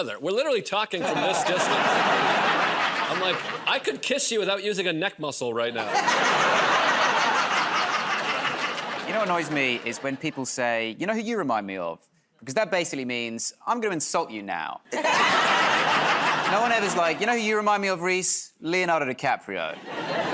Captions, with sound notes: We're literally talking from this distance. I'm like, "I could kiss you without using a neck muscle right now." [ Laughter ] -You know what annoys me? Is when people say, "You know who you remind me of?" Because that basically means, "I'm going to insult you now." [ Laughter ] No one ever's like, "You know who you remind me of, Rhys? Leonardo DiCaprio."